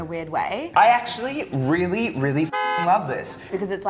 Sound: car honk

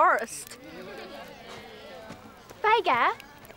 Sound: crowd snickering

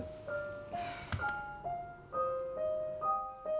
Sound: deep sigh of regret

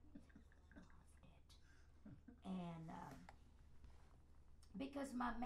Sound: whispers

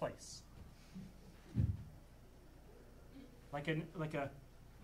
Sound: none

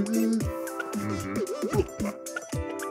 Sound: grunting

